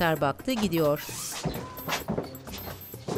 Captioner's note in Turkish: Ayak sesi